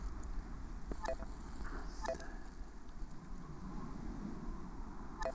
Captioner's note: phone beeping